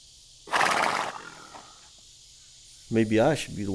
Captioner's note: horse snorting